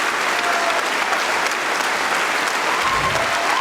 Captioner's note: cheering & Applause